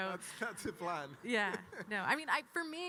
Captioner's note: chuckles